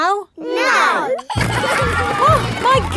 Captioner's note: giggling